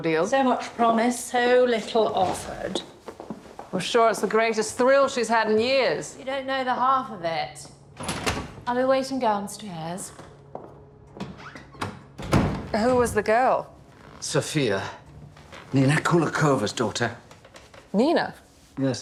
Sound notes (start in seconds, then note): 11.8 door thuds shut